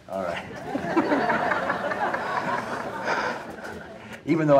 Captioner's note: audience laughing